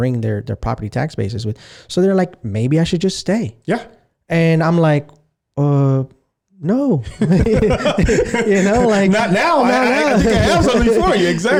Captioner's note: laughing